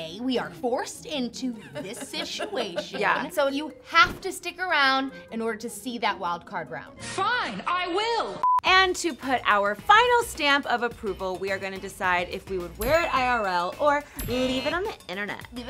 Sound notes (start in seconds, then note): 1.6 laughs; 8.4 beep